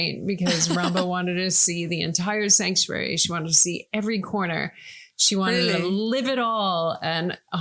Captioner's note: laughing